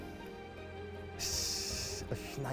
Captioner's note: he hisses